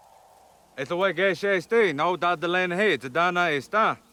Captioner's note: speaking in Cherokee